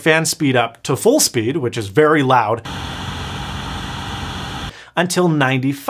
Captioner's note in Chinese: 轰鸣声